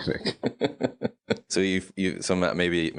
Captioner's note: laughing